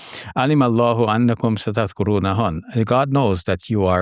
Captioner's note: speaking in Arabic